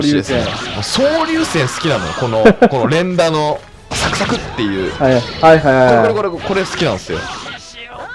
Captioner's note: laughs